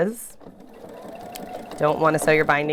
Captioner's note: machine whirs